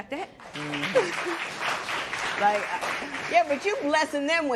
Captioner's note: applause